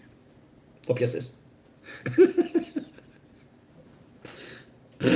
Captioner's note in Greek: γέλια